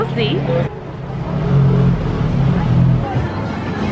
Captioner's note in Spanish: ruido de la ciudad